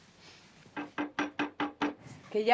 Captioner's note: knocking on the door